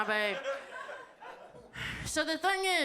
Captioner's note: audience laughs